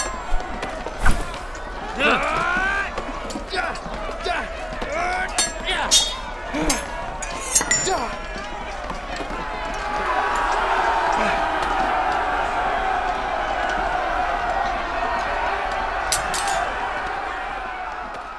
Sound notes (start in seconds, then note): 9.3 crowd cheers